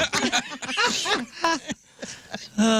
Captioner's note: laughter